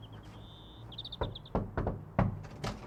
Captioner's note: knock, knock, knock, knock, knock...knock knock!